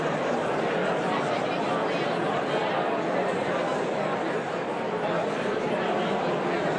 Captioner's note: audience continues indistinctly chattering